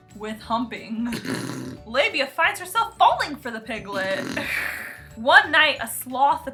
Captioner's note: snort-laughs